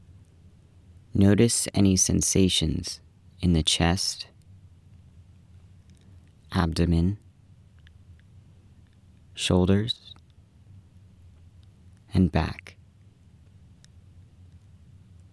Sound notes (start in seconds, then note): none